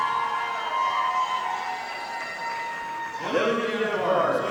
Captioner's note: audience applauding